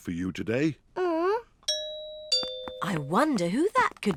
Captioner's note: groans; doorbell